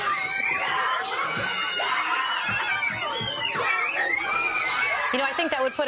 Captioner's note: screams and squeals